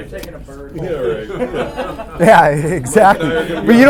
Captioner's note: laughter